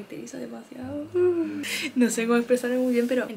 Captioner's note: cries